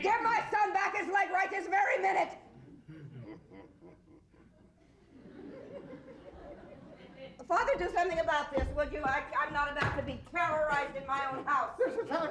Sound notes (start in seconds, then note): 5.4 audience chuckles